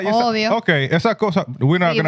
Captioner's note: speaking In Foreign Language